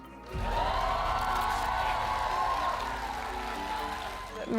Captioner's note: crowd cheering